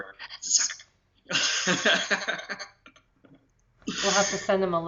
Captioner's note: laughter